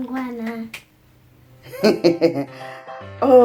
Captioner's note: laughs